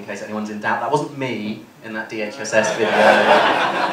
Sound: laughter

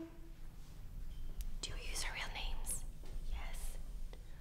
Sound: whispers

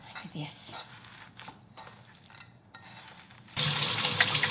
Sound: mixture gurgling; water hissing

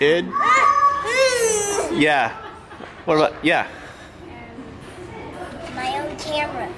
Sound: screams excitedly

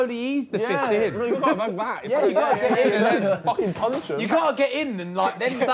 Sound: group chattering

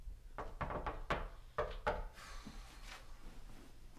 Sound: door knocking

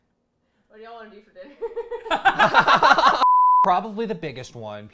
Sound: laughs; laugh

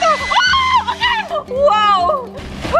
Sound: screams

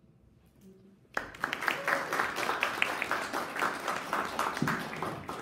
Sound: audience applauding

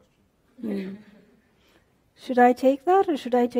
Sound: laughter

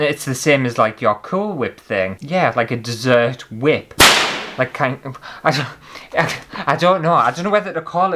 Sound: whip!!

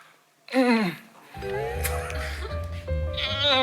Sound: A moan leaks out in one second

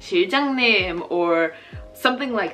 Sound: speaking Korean

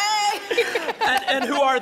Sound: laughs

